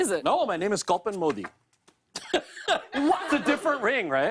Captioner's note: chuckles